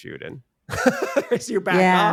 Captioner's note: laughs